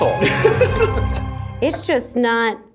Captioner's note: laughter